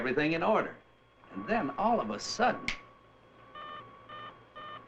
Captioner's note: snaps fingers; beeping